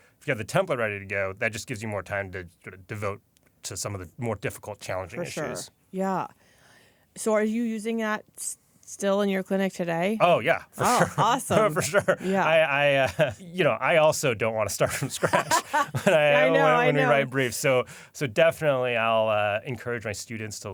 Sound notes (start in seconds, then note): 14.8 laughter; 14.8 laughs